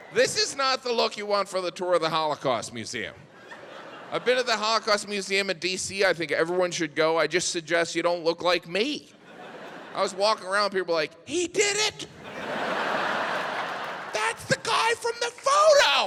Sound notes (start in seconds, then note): 12.0 audience laughs